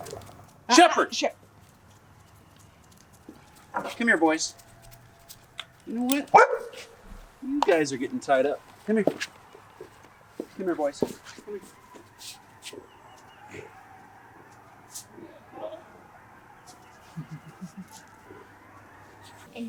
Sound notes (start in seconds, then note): 0.0 lots of howling not too far away; 6.2 Koda barks; 12.8 howling intensifies